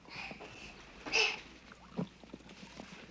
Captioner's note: exhales; juice pouring